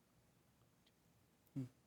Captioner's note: contestants whispering